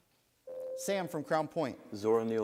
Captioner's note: buzzer sounds